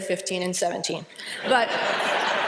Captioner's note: laughter